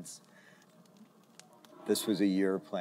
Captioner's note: silence